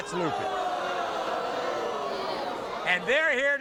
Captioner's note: audience booing